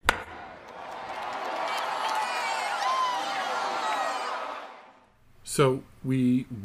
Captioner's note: crowd cheering